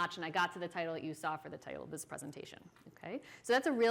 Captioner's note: none